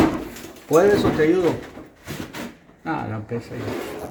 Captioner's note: Spanish